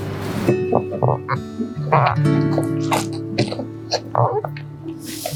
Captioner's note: calf suckles